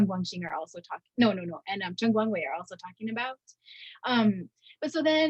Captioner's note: speaking in Chinese